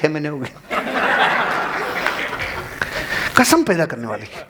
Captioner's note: cheering and applauses